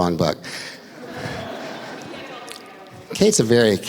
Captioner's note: laughter